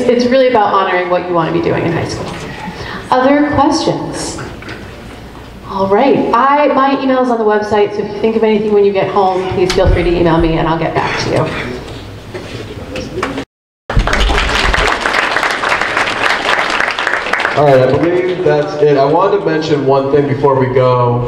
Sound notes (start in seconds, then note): 13.9 group applauds